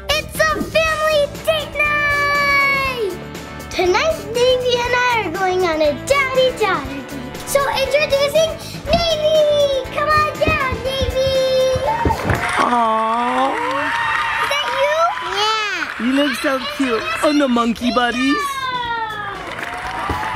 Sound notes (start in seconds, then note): 11.8 audience applauds; 19.3 audience applauds